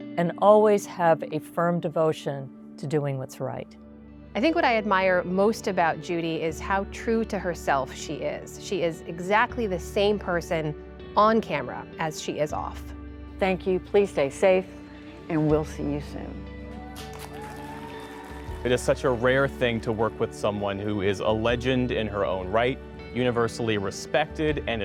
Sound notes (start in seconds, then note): 16.7 audience applauding and cheering